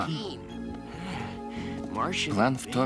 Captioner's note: sniffing